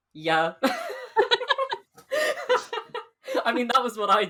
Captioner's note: both laugh